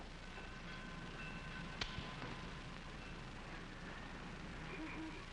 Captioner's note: trolley bell ringing